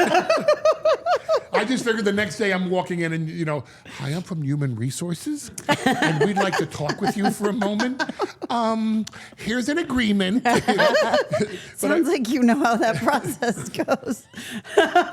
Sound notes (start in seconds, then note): 0.0 all laughing; 10.3 Steph and Elyse laughing; 14.3 laughing